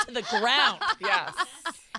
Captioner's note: laughing